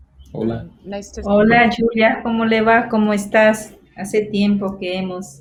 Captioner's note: speaking foreign language